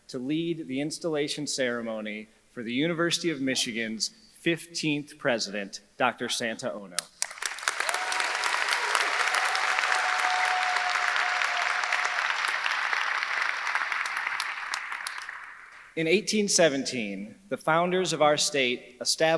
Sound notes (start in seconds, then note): 7.2 audience applauding; 7.2 audience cheering